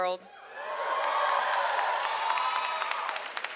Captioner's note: audience cheers